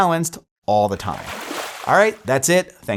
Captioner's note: water splashing